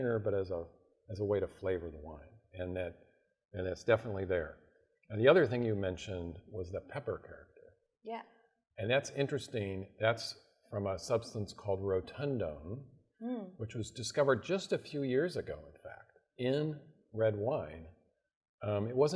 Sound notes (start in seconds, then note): none